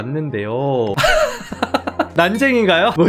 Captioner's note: laughing